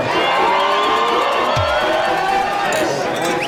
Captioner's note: crowd cheering; glasses clinking